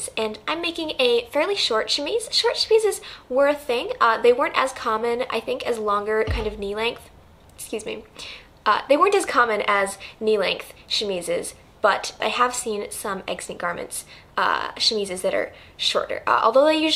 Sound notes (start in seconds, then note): 6.2 knocks desk